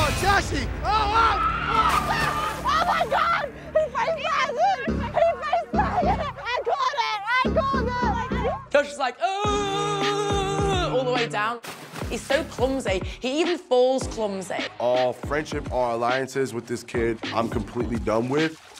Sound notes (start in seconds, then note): 0.8 crowd cheering; 6.9 ladies cheering; 9.9 screams